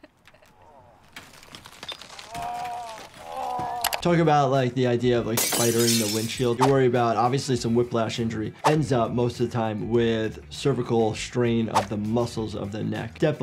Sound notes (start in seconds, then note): 2.1 Deadpool groaning